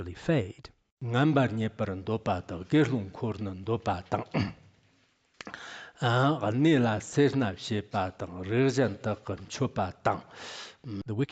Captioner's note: giving oral transmission in Tibetan